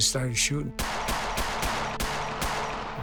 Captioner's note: gunshots popping